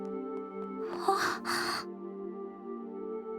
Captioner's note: gasp